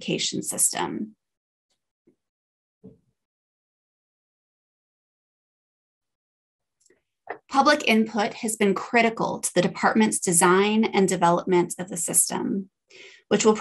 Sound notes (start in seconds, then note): 1.1 silence